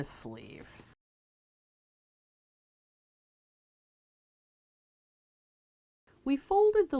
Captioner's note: no Sound Present